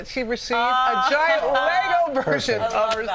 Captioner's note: laughter